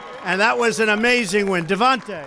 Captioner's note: applause